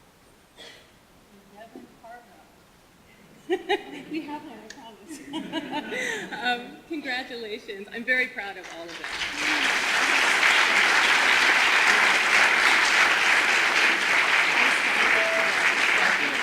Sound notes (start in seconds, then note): 3.4 laughter; 8.7 audience applause